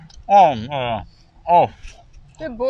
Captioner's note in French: bruits de plaisir